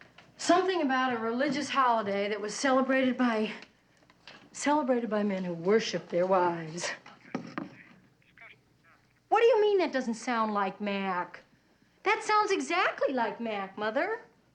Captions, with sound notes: Something about a religious holiday, that was celebrated by... Celebrated by men who worship their wives. [Emily chattering on phone] What do you mean, that doesn't sound like Mac? That sounds exactly like Mac, Mother.